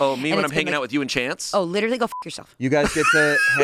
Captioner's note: beep